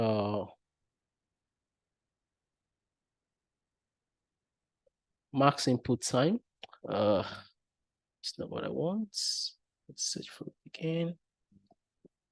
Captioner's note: sigh